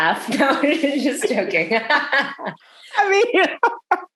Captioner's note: laughs